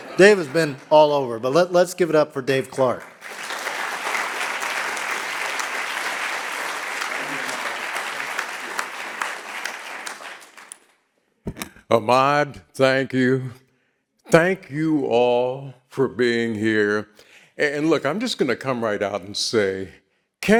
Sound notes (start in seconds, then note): 4.1 audience clapping